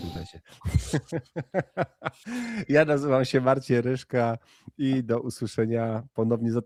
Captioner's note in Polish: śmiech